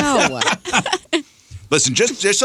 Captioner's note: laughing